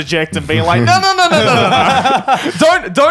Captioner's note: all laugh